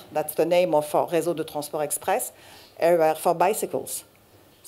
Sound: french

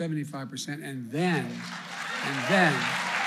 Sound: applause

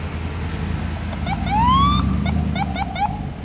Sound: police sirens

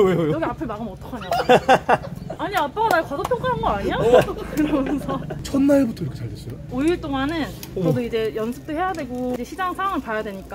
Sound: laughing

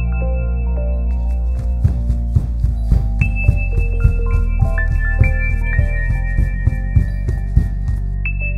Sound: footsteps Approaching; ominous Music

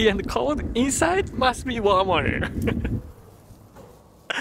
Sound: chuckles

